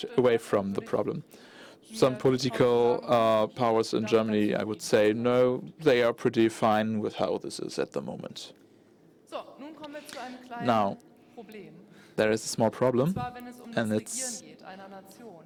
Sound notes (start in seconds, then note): 6.4 in German